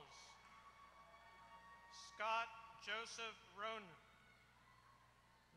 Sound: applause

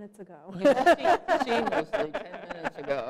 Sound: laughter

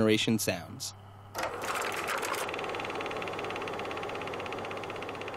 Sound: tape rolling

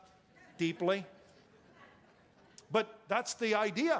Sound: congregation chuckling

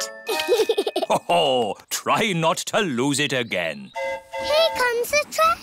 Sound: giggles; train horn hooting

